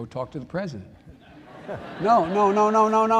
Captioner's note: laughter